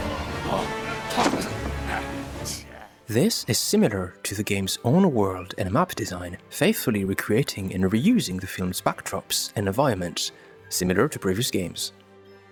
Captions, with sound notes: (Battle grunts) This is similar to the game’s own world and map design, faithfully recreating and re-using the films’ backdrops and environments, similar to previous games.